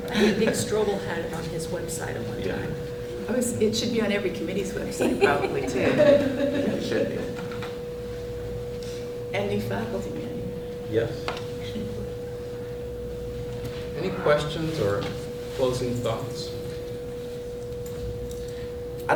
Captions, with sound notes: >> I THINK IT'S CALLED THE CALIFORNIA COMMUNITY COLLEGE BOOK OF ACRONYMS. [ LAUGHTER ] >> HE STRUGGLED WITH IT AT ONE TIME. >> ANY QUESTIONS OR CLOSING THOUGHTS?